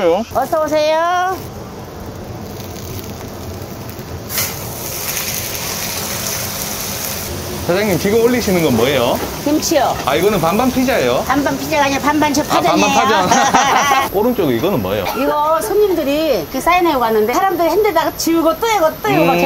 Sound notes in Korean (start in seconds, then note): 13.0 웃음